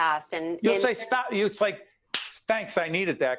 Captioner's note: slapping sound